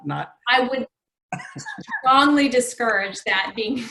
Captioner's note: laughs